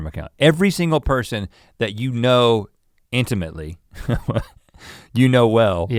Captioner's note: chuckles